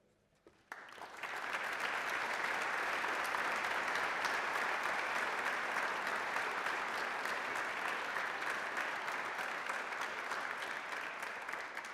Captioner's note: applause